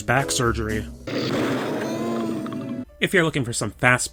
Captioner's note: Pathetic Gargoyle Whimper